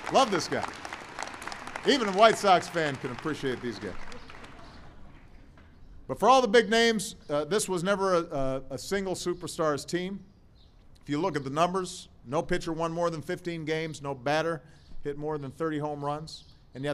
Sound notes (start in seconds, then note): 4.5 laughter